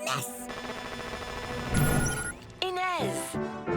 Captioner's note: computer chimes